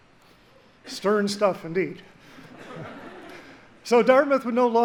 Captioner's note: audience laughs